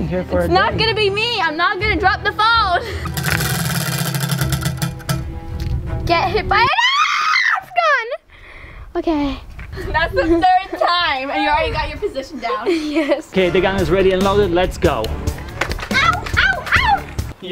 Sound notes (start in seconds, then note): 3.0 wheel clanks around metal axle; 6.7 screams